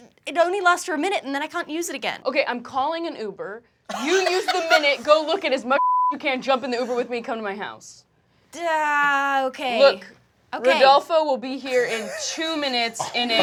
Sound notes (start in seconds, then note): 5.8 beep